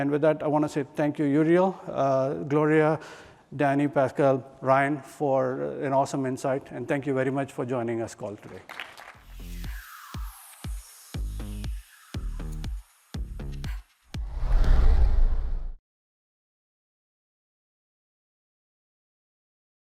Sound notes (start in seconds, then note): 8.3 applause